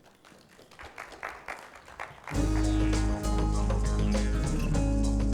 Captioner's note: audience applause